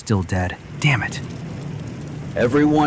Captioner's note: SFX: fire raging